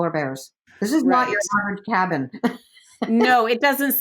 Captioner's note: laughs